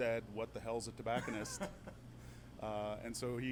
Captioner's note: laughs